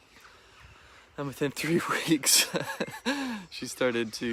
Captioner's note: chuckling